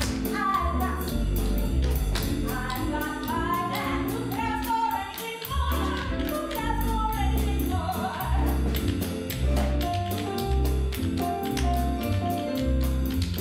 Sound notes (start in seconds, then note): 8.9 jazz music; 8.9 tap dancing; 11.8 jazz music